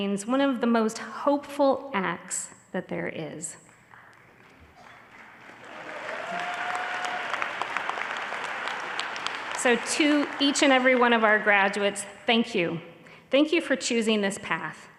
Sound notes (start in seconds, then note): 4.0 audience applauding